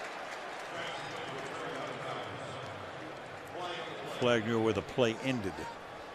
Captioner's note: pa announcement